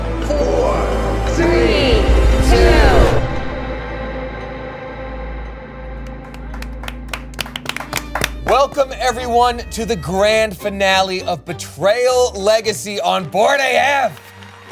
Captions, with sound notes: Five. Four. Three. Two... (audience applauding) (upbeat music) - Welcome everyone to the grand finale of Betrayal Legacy on Board AF.